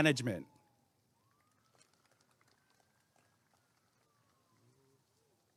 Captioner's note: applause and cheering